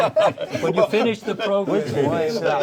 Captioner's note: all laugh; all chatting